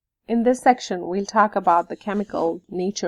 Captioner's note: voiceover